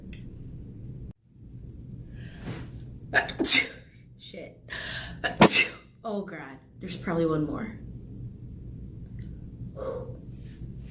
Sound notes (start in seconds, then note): 0.3 mouth click; 1.8 sneeses; 9.7 sighs